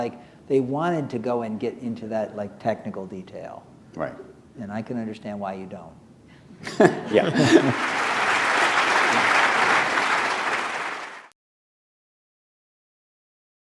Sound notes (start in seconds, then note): 6.6 laughter; 7.3 applause